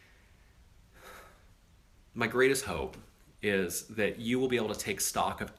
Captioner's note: sighs